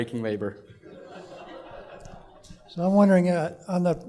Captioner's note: laughter